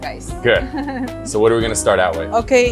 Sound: laughs

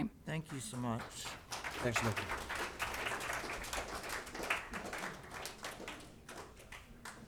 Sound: applause

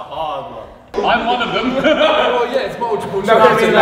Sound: Ethan laughs

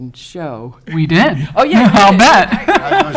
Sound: laughing

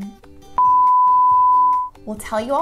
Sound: high-pitched toning

